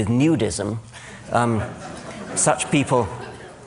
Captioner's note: laughter